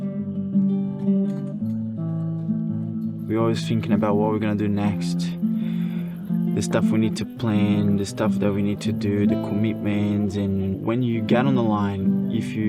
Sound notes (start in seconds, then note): none